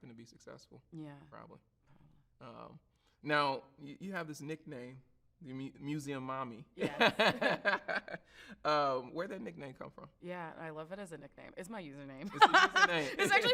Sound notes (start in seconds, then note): 6.8 laughs; 12.3 laughs